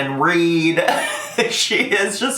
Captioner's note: laughing